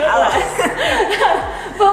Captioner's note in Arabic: تضحك